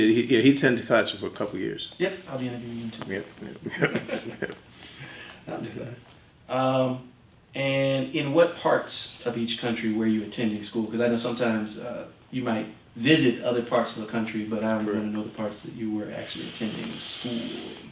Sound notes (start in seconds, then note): 3.3 both laugh